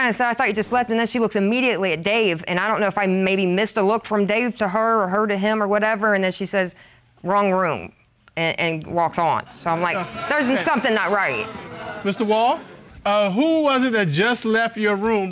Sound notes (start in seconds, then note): 9.9 audience exclaims